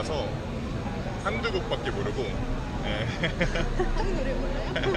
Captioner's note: haha